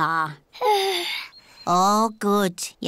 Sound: yawns

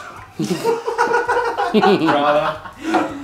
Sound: laughter

